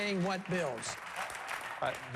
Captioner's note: applause